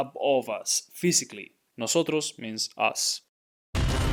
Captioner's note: speaking in Spanish